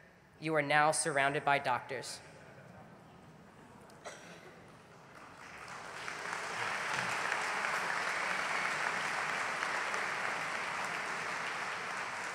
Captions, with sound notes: HAND. YOU ARE NOW SURROUNDED BY DOCTORS. [ APPLAUSE ]